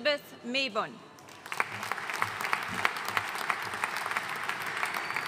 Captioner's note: audience applauding